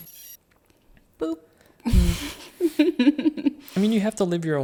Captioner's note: chuckling